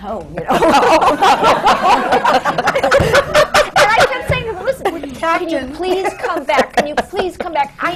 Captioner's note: laughter